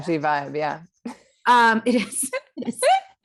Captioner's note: laughs